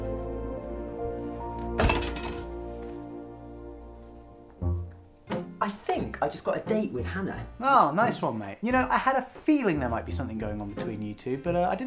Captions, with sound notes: *Door Slam* -I think I just got a date with Hannah. -Nice one mate. You know I had a feeling there might be something going on between you two